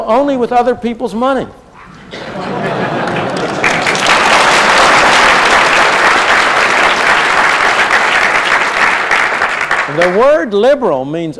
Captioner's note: laughter and applause